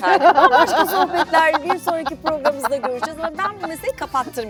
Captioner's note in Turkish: kahkaha